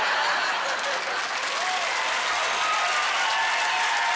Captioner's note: applause